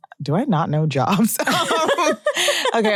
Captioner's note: laughs